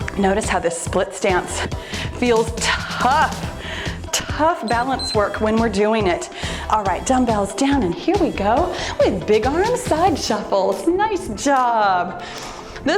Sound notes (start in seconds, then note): 4.6 timer beeps